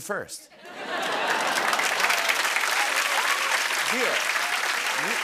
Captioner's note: applause